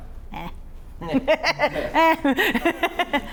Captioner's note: laugh